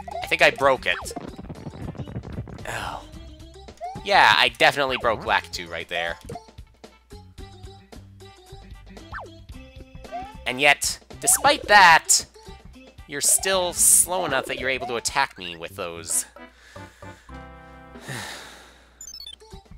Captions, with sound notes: I think I broke it. Oh... ...yeah, I definitely broke Lakitu, right there. And yet, despite that... ...you're still slow enough that you're able to attack me with those- (*breathing*)